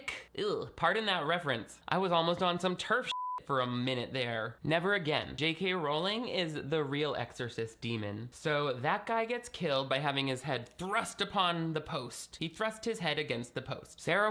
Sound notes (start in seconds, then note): 3.1 beeping